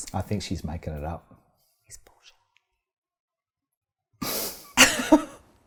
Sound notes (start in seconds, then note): 1.8 whispers; 4.5 laughing